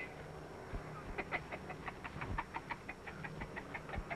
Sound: laughs

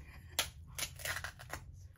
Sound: crab leg cracks

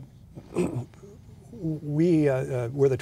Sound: clears throat

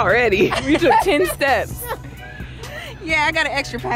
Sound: laughs

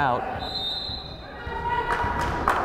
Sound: whistle blows; fan applauding

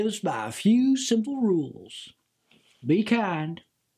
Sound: none

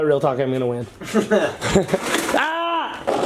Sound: laughs

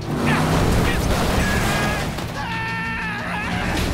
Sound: grunting; screaming

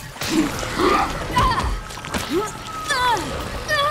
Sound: grunts

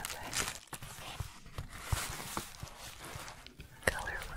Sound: shuffling

